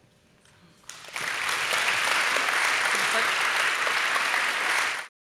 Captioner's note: audience applauding